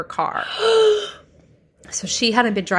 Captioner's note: gasps